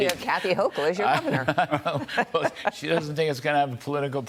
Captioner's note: laughter